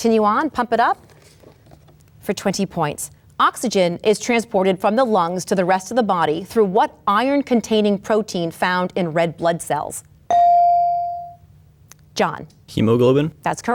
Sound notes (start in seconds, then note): 10.3 bell dings